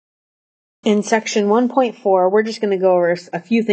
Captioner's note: voiceover